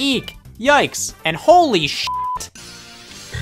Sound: beep

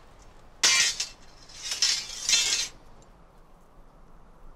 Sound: metal dropping on metal

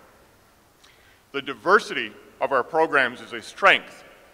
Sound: none

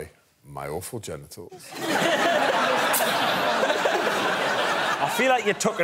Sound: audience laughing

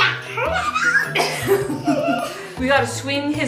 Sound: laughing

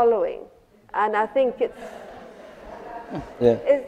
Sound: laughter

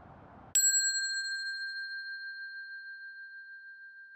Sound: bell dinging

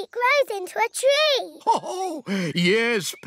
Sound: laughs

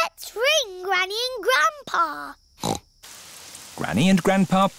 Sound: snorts

